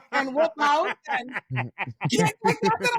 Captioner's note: laughing